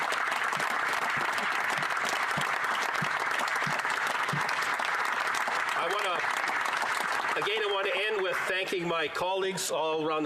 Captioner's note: applause